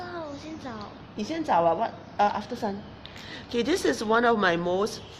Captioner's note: speaking foreign language